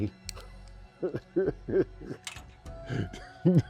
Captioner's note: laughs